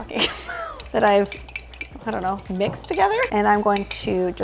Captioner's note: laughs